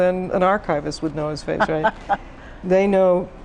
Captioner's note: laughs